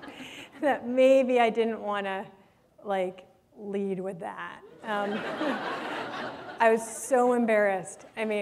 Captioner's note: laughter